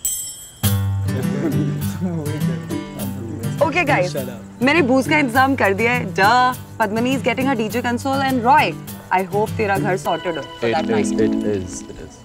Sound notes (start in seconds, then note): 1.2 students chattering